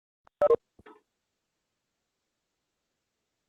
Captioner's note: pause